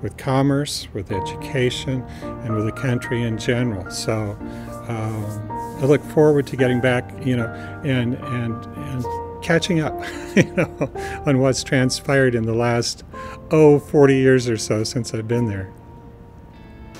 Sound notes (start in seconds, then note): 10.0 laughing